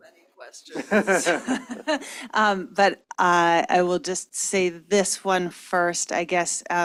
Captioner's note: laughs